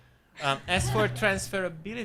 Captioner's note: audience laughing